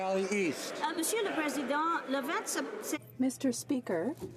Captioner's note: applause